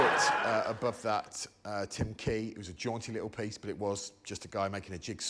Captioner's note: laughter